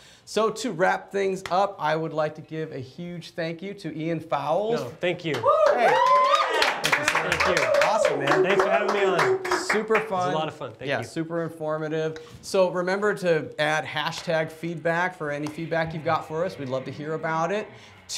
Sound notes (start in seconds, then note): 5.2 applause